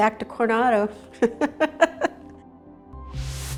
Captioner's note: group laughing; upbeat music